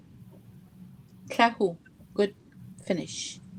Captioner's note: speaking Indigenous language